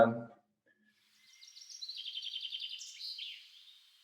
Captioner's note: sounds of birds chirping playing